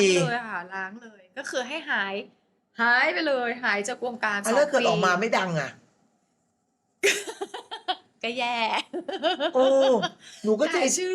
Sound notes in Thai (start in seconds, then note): 7.1 เสียงหัวเราะ